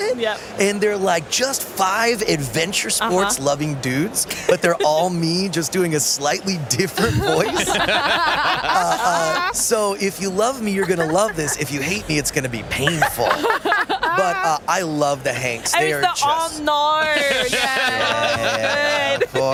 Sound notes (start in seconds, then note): 6.9 laughter; 12.7 laughter; 15.9 Australian accent